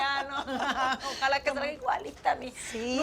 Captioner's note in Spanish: Risas